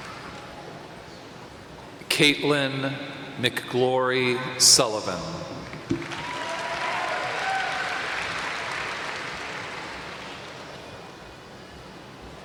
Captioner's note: applause